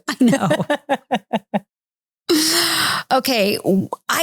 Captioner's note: laughing